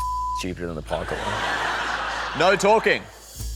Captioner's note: laughter